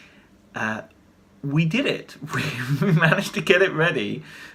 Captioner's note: chuckles